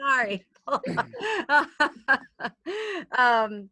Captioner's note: laughing